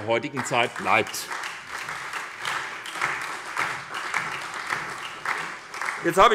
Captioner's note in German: Beifall bei der SPD